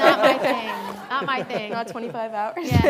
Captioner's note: audience laughing